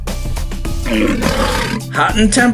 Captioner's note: lion's Roar